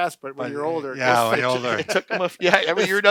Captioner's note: overlapping chatter